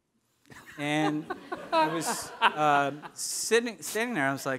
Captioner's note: audience laughing